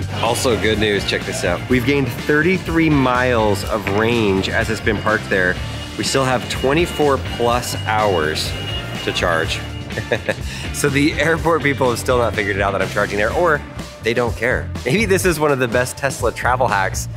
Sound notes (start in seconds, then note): 9.7 laughs